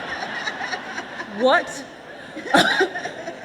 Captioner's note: laughter